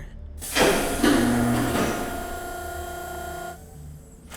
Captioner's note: doors opening